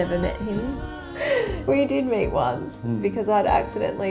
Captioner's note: laughs